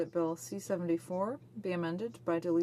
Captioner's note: speaking French